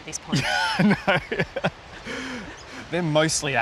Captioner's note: chuckles